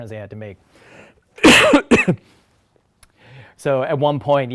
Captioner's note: coughs